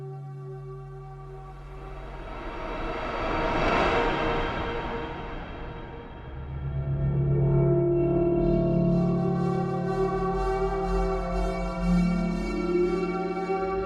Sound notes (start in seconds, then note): 1.6 air whooshing; 1.6 ominous music; 10.2 ominous music continues